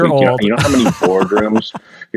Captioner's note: laughing